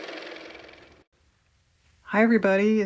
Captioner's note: car motor